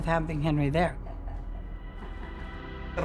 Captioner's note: speaking Spanish